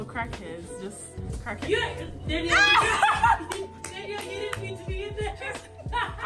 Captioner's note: laughter; laughter